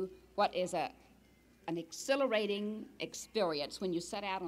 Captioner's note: none